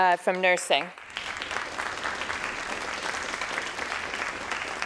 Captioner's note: crowd applauding